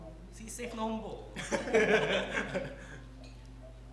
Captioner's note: laughing it off